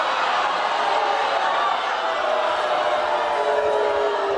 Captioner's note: audience screaming